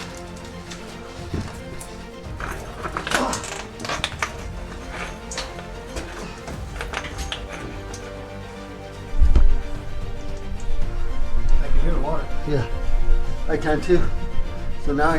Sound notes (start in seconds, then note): 0.2 dramatic music continues; 4.9 rocks clinking